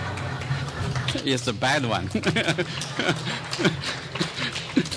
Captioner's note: laughing; laughs